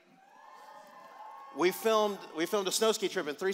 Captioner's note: cheers